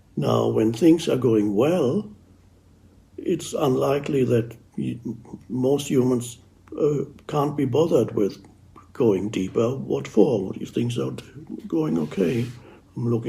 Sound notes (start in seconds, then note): none